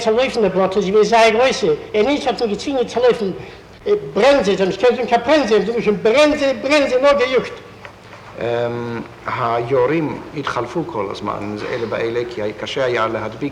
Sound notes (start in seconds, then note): 5.5 in Polish “faster”